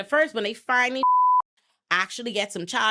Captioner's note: beep